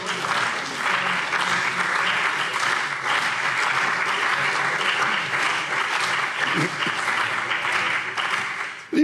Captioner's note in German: Beifall CDU und BÜNDNIS 90/DIE GRÜNEN